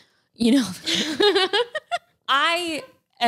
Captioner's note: laughs